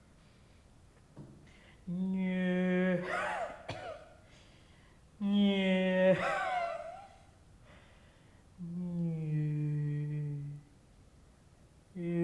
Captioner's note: coughs, then hums, then coughs again before resuming a low hum